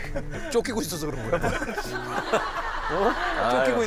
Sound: laughing

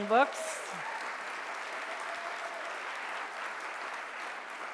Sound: audience applauding

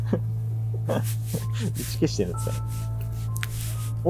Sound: laughs

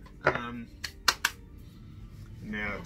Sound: clapping

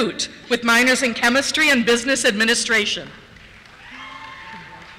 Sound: cheers

